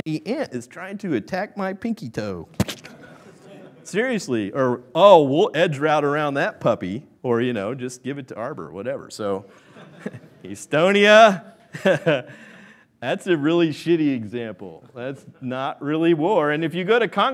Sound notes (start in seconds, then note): 11.7 laughing; 13.9 laughs